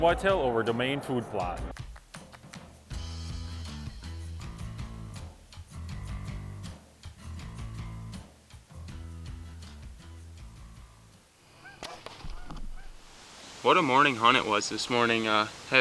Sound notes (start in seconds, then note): 2.9 gentle music; 11.8 arrow thuds